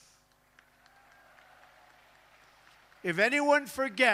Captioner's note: applause